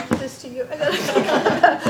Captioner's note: laughter